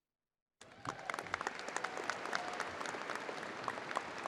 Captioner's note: crowd applauding